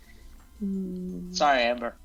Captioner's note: sad noise